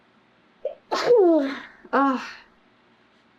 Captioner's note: sneezes